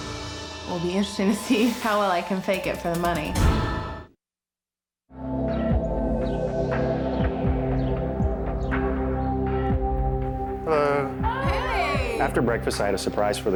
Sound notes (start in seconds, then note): 4.5 birds chirping; 5.3 gentle choral music